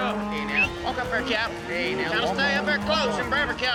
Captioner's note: calling, whistling